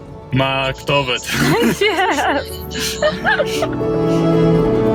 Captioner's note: both laughing